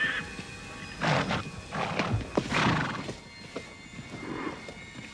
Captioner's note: horse snorting